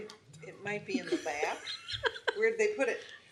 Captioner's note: laughing